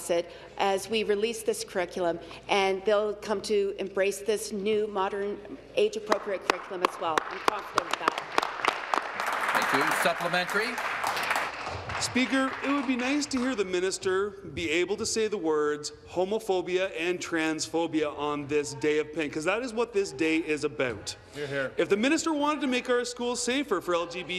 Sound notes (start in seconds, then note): 11.4 applause